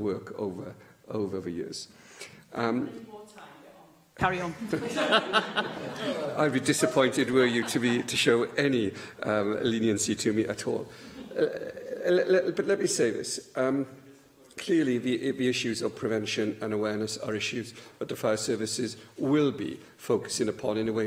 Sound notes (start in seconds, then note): 4.6 laughter; 11.1 laughter